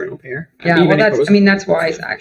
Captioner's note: faintly speaks